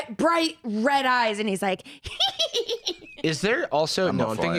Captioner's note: evil cackling